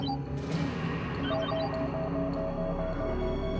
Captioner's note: beeping